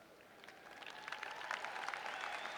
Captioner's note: applause